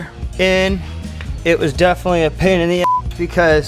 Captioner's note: beep